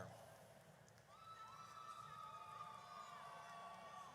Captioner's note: audience cheers